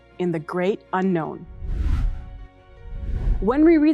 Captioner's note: graphic whooshing